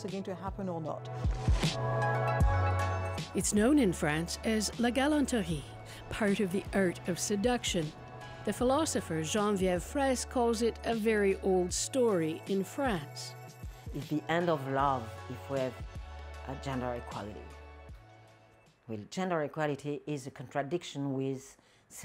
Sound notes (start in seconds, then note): 9.2 speaking French